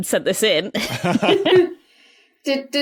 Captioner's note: group chuckling